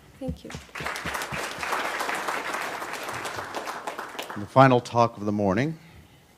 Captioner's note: applause